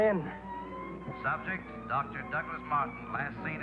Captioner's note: man On Radio